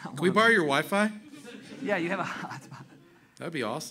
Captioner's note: chuckling